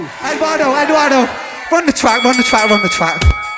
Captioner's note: boxing bell rings - Ding ding ding